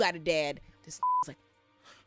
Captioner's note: beep